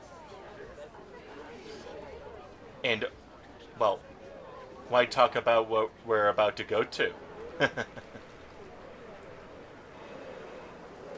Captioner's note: chuckles